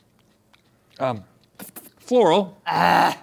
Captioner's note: spits